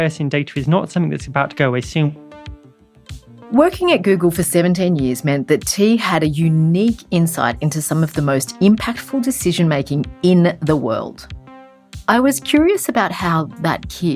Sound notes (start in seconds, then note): 2.7 funky music; 4.0 voiceover